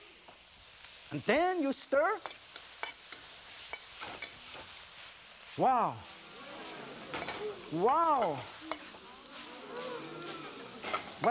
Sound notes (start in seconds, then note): 2.5 sizzle; 6.2 crowd; 9.3 crowd